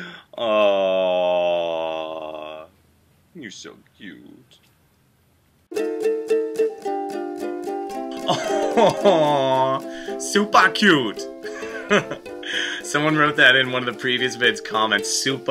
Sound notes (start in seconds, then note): 11.5 laughs